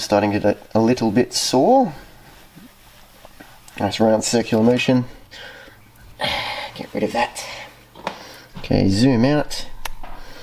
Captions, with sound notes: starting to get a little bit sore. Nice round circle motion. *breaths* Get rid of that Ok, zoom out.